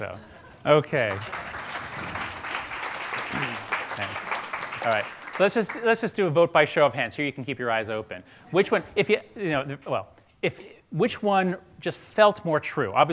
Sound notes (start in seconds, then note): 2.5 audience applauding; 9.4 stammering